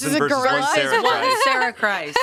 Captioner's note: laughing